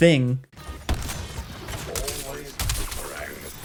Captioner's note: gunshots booming